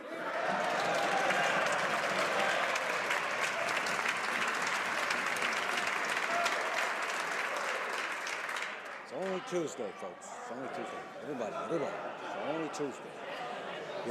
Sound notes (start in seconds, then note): 5.0 some Applause